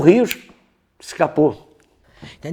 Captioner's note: snap of fingers